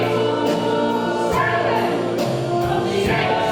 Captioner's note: shouted